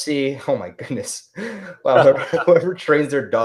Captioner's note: laughs